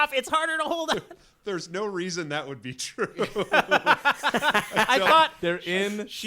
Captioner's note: laughing